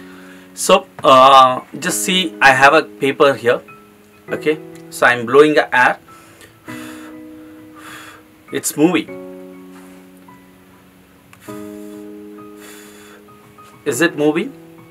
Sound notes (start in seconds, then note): 6.1 blowing air